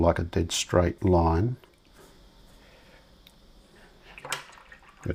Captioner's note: silence